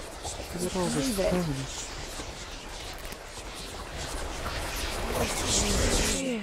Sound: haunted voices whispering

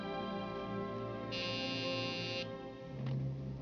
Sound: buzz

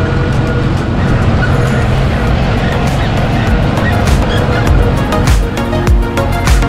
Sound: tractor is jerking

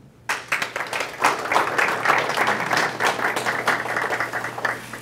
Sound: clapping

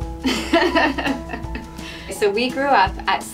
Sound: laughing

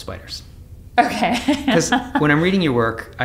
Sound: laughs

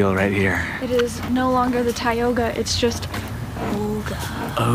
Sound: dramatically

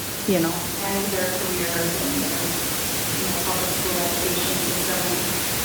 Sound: speaking distantly

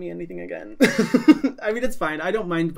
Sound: laughs

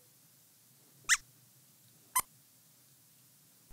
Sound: squeaks squeaks

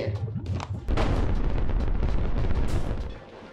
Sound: thundering

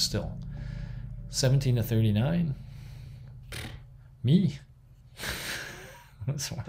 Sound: scoffs; laughs

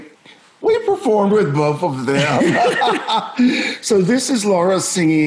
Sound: laughs

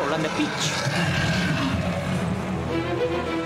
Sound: loud Growl

